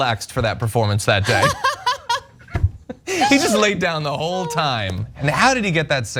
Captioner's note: laugh